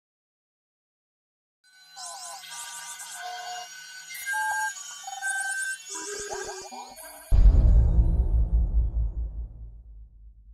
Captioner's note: sound Effects